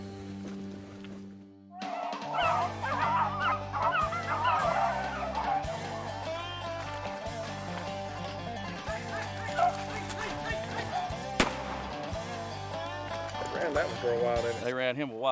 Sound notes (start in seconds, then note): 2.5 upbeat country music; 11.3 gun fires